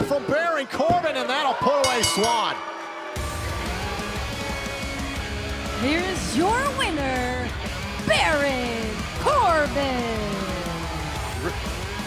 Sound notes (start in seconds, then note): 1.8 bell ringing